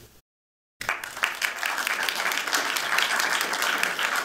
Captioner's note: applause